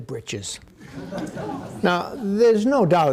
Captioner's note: audience laughing